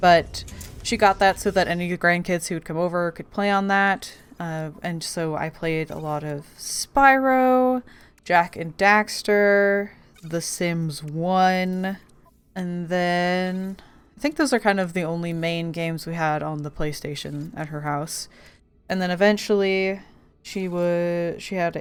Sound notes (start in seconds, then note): none